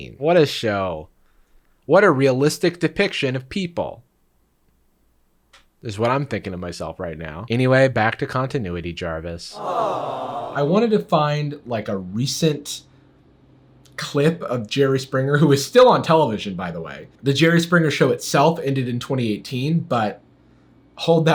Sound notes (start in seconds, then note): 9.5 crowd groaning sadly